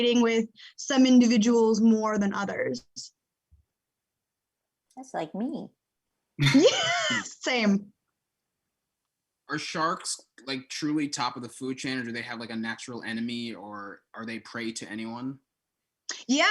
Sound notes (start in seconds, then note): 6.4 laughing